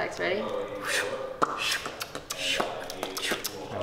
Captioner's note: beatboxing